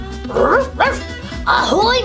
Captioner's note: barking